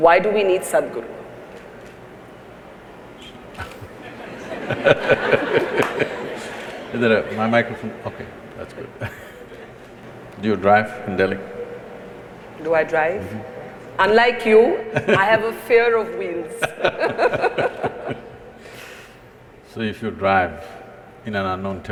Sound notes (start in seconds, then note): 3.5 laughter; 14.9 Sadhguru laughs; 16.6 both laugh